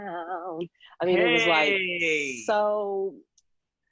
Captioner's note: cheering